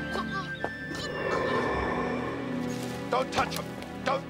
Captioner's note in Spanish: viento silbando